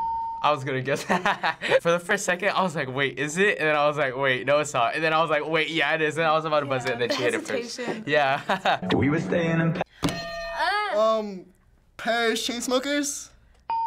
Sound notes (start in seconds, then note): 9.9 gasping softly; 10.1 hitting bell; 13.6 ding